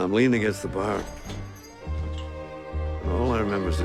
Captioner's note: door opening, bell ringing